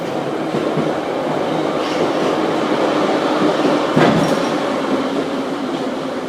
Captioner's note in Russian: торможение - прибытие на станцию